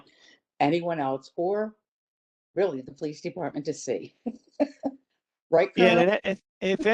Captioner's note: laughter